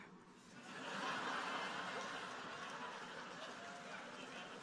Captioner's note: audience laughing